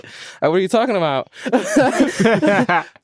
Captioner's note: all laughing